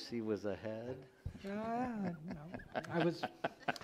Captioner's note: laughing